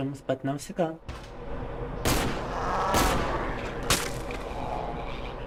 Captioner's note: screaming